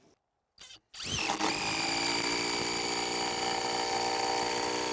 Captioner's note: drilling sound